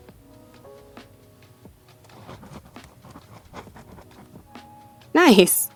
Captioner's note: writing sounds